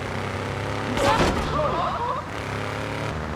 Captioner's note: screaming